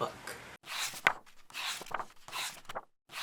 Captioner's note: pages turning